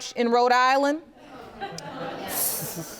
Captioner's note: audience laughing